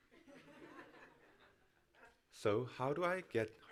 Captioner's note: audience laughs